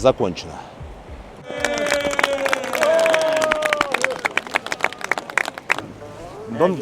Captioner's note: applause